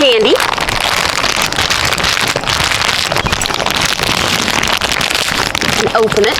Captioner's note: bag crinkles loudly as I struggle to open it 😂